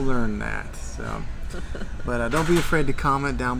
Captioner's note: laughing